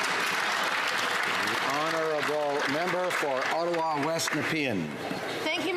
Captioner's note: some Applause